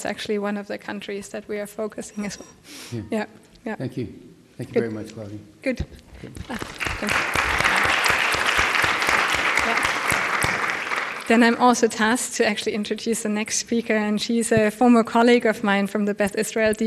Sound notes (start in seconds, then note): 6.4 applause